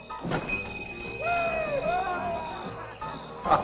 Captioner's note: cheering